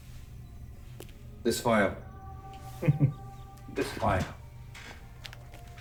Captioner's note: chuckles